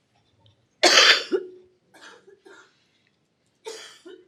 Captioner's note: coughing